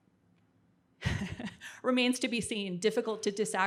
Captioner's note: chuckles